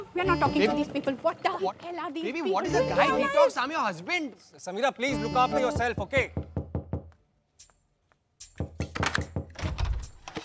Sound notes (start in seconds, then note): 5.7 knocking on door; 8.6 door opens